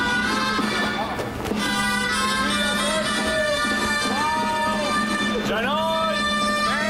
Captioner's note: man speaking native language